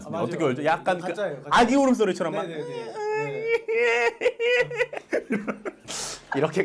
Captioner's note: crying noise